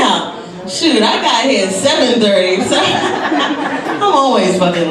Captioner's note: laughs